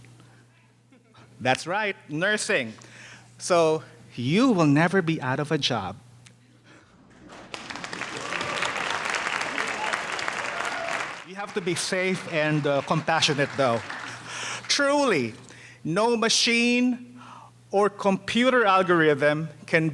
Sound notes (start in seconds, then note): 7.2 audience applauding; 8.6 audience cheering